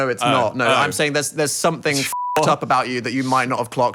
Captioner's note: beep